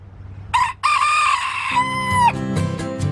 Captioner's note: rooster crows